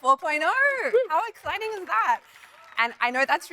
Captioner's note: audience applauding